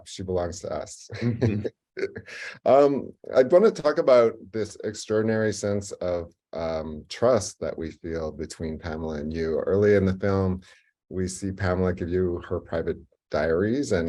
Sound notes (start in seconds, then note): 2.0 chuckles